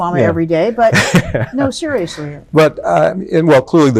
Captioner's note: chuckles